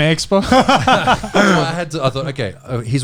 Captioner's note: all laughing